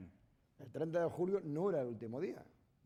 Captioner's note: speaking spanish